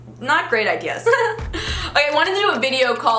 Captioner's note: laughs